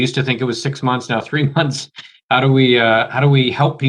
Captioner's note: chuckles